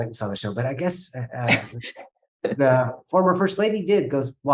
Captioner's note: chuckling